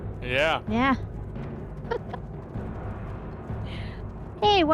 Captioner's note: laughs